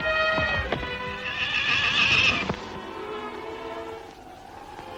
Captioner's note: horse neighing